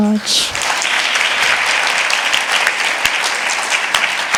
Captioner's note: all clapping